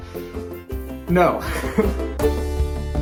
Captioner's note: laughs